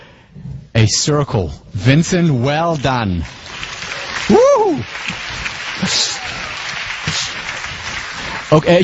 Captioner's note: applause